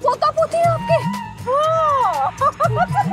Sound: laughing

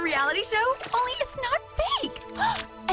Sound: gasp

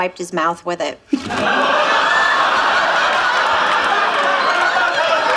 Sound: audience laughing

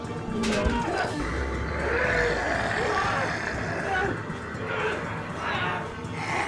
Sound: grunting; snarling

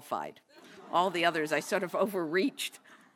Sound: laugh

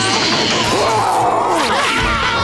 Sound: roaring; screaming

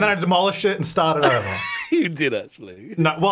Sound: laughs

